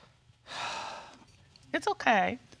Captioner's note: exhales deeply